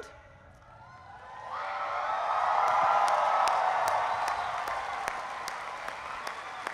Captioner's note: cheering